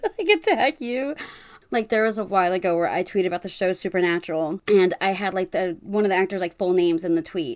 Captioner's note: laughs